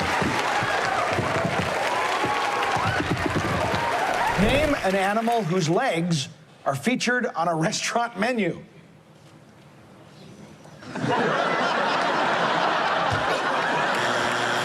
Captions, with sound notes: Name an animal whose legs are featured on a restaurant menu. [ Laughter ]